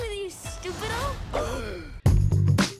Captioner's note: gasps